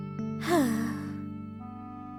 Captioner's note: sighing